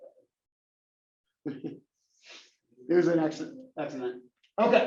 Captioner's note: laugh